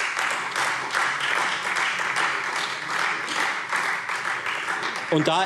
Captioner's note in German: Beifall Freie Demokraten